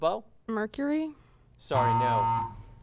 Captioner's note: buzzer sound